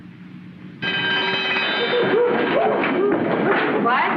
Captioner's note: bell rings